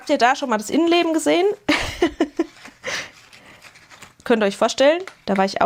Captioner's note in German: gelächter